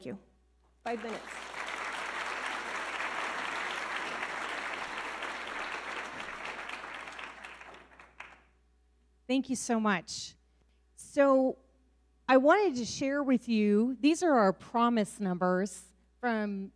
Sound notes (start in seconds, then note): 2.3 audience clapping